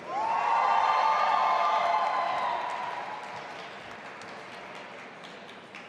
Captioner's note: audience applauding and cheering